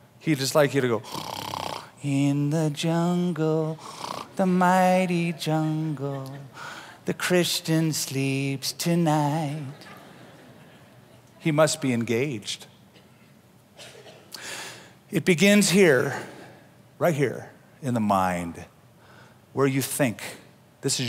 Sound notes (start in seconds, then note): 1.0 snoring; 9.6 laughter